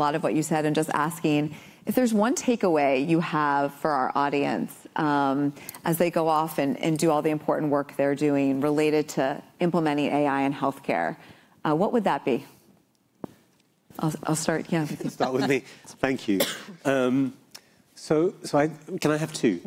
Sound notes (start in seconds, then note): 14.8 laughter